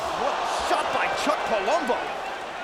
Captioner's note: none